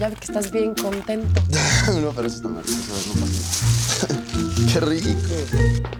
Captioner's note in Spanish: Ríe